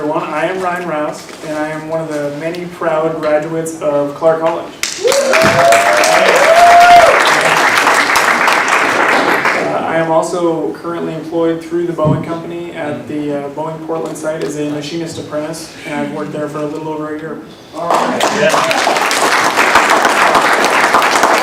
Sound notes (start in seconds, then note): 4.8 applause; 17.8 applause